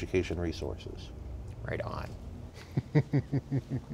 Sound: laughs

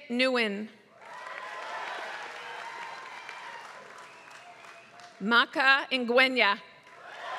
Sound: applause; applause

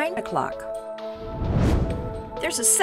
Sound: whoosh

